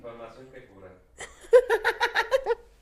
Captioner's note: laughter